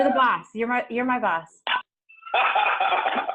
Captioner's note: laughs loudly